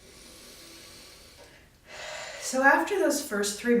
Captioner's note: inhaling and exhaling